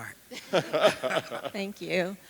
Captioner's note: laughing